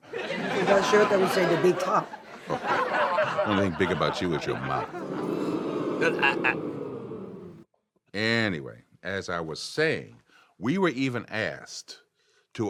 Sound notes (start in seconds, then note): 0.1 audience laughs; 4.8 audience oohs